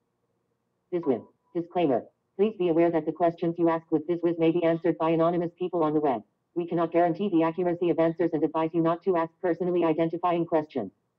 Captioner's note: Siri talking